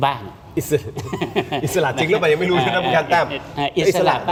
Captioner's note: laughter